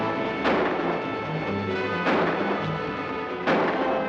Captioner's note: guns firing